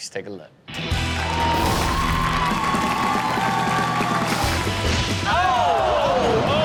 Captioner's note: rock music; audience cheers